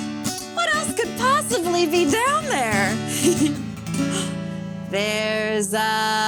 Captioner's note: chuckles